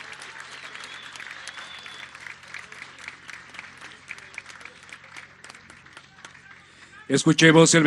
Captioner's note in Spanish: aplausos